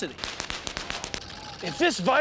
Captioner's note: <i> popping</i>